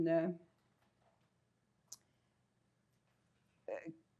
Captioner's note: pauses 6 seconds